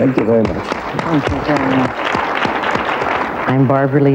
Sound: audience applause

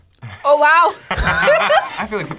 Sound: both laugh

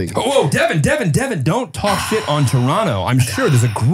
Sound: sighs

